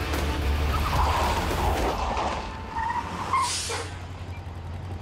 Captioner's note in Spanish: Chirrido de llantas